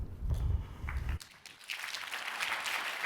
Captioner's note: applause